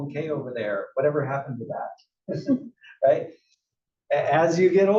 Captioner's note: laugh